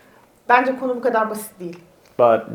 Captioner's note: speaks in Turkish